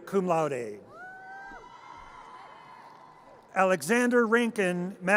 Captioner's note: audience cheers